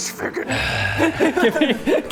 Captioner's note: death rasp